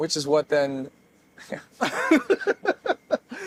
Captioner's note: laughing